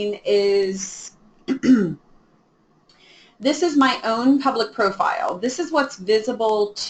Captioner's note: clears throat